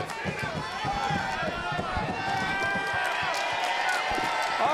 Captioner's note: audience exclaiming